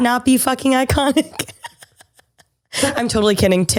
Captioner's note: laughs